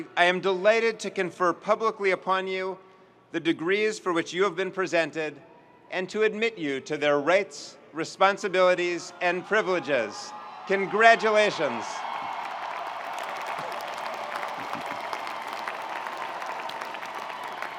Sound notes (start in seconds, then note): 12.2 audience cheering and applauding